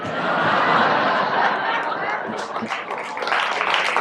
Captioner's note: audience laughs, applauds